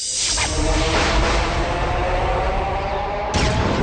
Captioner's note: swirling, thunder